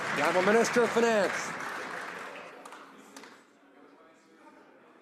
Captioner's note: some Applause